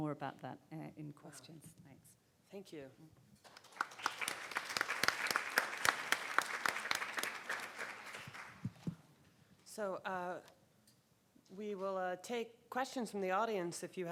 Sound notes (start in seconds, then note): 3.5 audience applauding